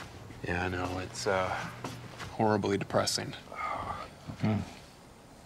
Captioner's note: crickets chirping; sighs